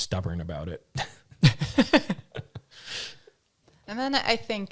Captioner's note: laughing